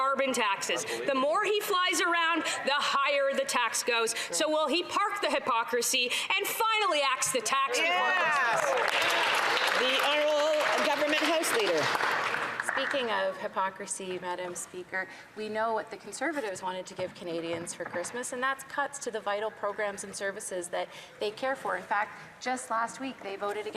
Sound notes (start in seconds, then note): 11.4 some Applause